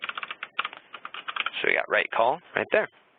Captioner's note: keyboard typing